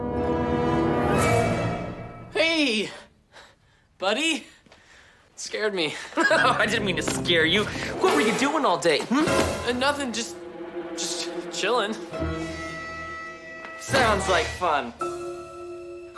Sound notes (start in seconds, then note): 6.0 laughs